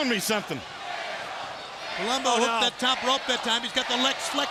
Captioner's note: crowd cheering